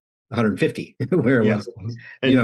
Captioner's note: laughs